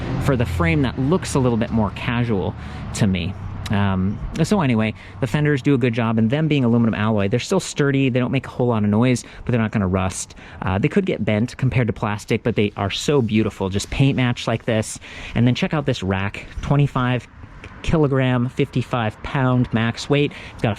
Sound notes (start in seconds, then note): none